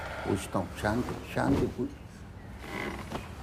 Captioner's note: speaking Hindi